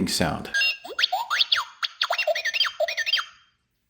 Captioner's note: beep boop!